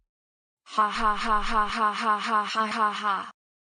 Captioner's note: laughs